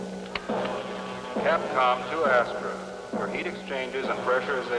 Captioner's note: man on PA